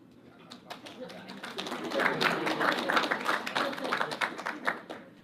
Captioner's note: audience applauds